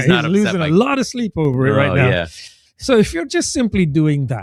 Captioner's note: uh